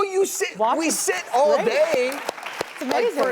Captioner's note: audience clapping; clapping